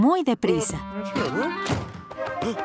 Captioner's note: door slamming; panting